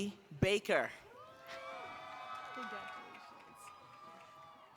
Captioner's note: applause